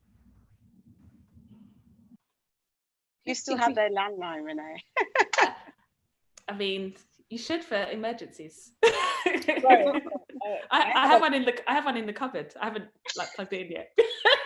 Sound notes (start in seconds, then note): 4.8 laughs; 8.9 laughs